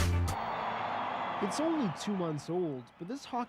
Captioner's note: cheering